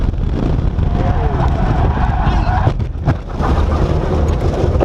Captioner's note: tyres skidding and squealing